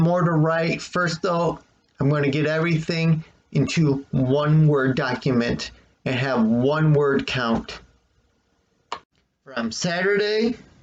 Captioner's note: click